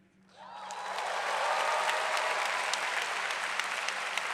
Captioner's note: audience applauds